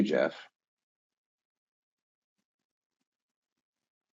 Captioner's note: silence